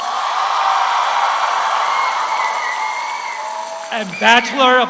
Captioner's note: audience applauds; audience cheers